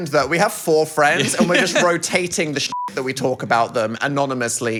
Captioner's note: beep